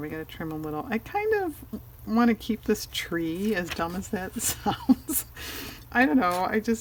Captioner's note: laughs